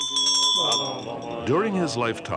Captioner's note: bells ring